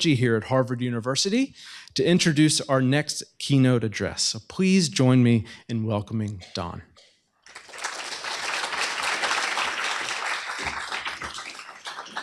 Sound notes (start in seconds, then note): 7.4 applause